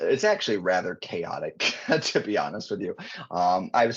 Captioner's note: chuckling